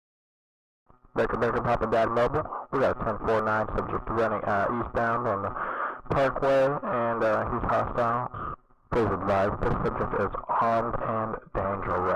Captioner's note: police chatter